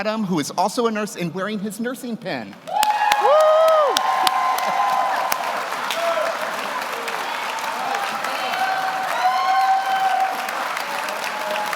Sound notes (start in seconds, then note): 4.5 audience applauds; 4.5 audience cheers